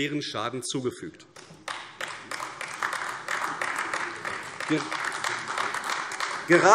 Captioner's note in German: Beifall AfD